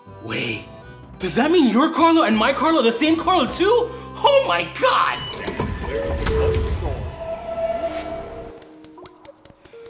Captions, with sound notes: Oh wait, does that mean your Carla and my Carla are the same Carla, too? Oh my God. (train doors whirring)